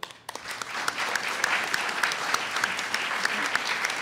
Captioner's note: audience applauds